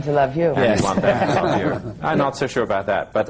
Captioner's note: laughs